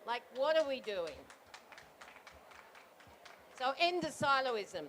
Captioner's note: applause